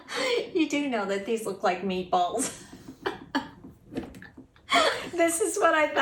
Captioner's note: laughter